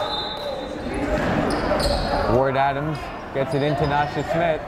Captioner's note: whistle blowing; yelling